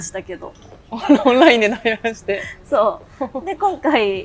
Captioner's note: laughs